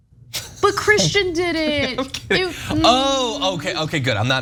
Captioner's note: laugh